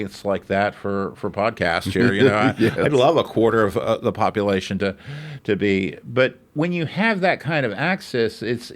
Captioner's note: laughs